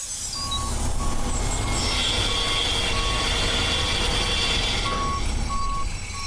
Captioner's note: paint can spritzing; truck beeping; dramatic music